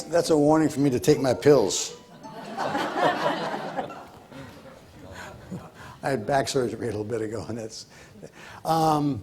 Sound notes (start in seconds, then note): 2.2 audience laughs